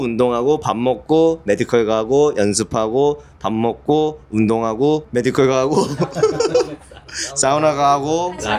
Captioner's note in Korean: 웃음